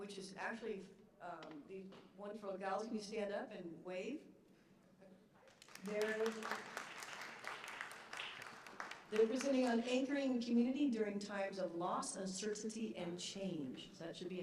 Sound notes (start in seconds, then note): 5.4 applause